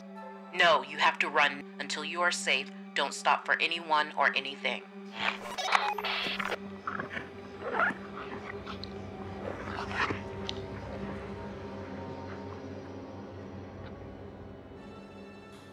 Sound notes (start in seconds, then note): 5.2 radio bleep; 8.1 suspenseful music; 12.7 suspenseful music fades out